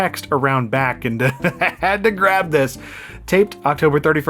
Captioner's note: laughing